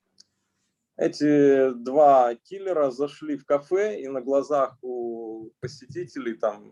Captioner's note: speaking Russian language